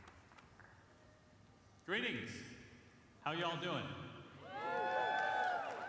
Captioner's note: cheering